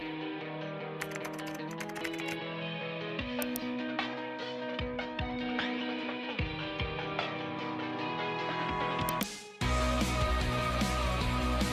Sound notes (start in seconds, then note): 1.0 keyboard clacking; 3.3 upbeat music